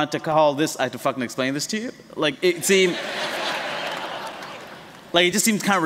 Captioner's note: laughter